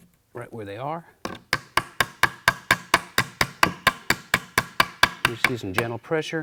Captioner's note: tapping